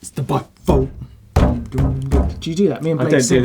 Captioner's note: bangs on table